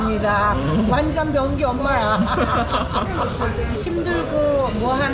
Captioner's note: laughing